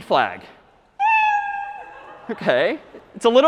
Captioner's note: meow